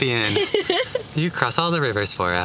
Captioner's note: woman laughing